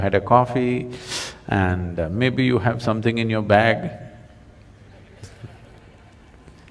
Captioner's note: laughs